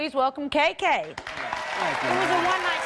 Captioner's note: applause